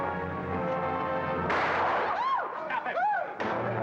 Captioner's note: woman cries out; gunshot; suspenseful music